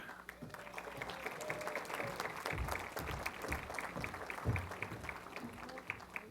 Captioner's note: applause